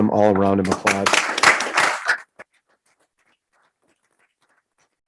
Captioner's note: group applauding